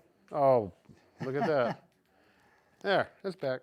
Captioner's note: laughs